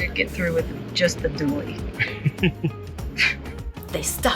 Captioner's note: laughing